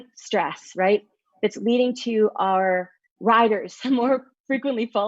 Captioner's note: laughs